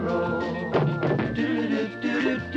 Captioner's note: thumps